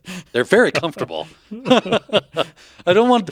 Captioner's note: both laughing